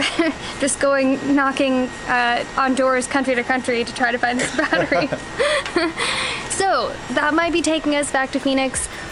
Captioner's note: laughter